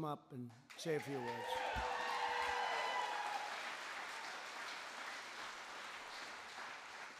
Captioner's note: applause